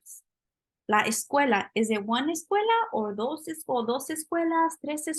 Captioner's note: spanish